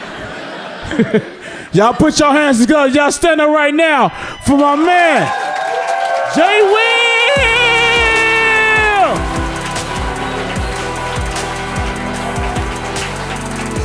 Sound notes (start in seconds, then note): 0.0 audience laughs; 5.2 audience cheering; 10.1 hip hop music